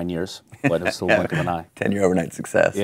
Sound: laughing

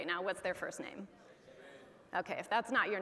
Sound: audience chattering

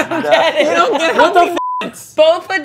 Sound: beep

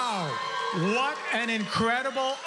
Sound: cheering

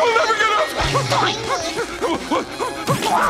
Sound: screaming

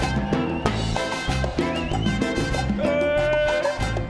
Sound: audience cheering

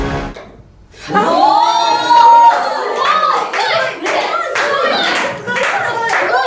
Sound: cheers

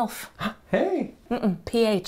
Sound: gasps

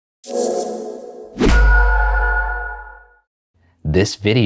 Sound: logo whooshing and pinging

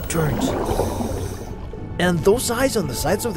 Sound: water splashing

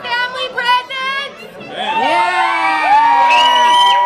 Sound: screams

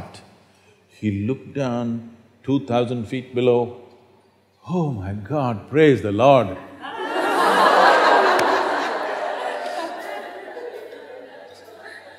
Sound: laughter

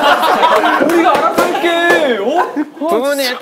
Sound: laughing

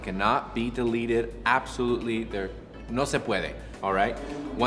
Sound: speaking in foreign language

